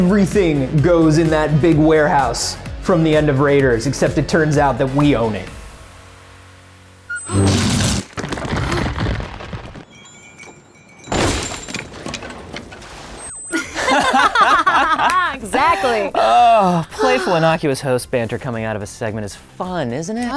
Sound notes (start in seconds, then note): 13.5 laughing